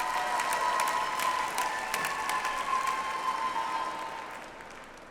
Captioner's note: audience applauds